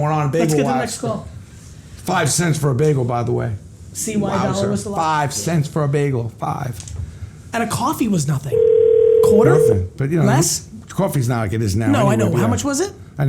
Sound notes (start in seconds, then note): 8.5 phone ringing